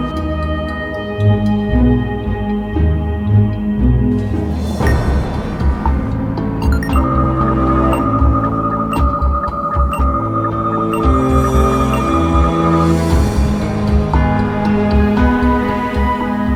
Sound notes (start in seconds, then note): 5.1 device beeping; 6.6 machine beeping; 12.6 suspenseful orchestral music